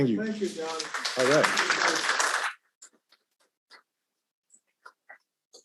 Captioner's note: audience applauding